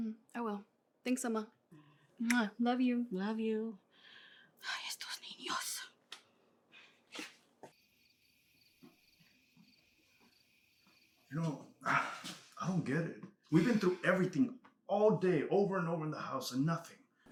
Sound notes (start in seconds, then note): 4.6 Spanish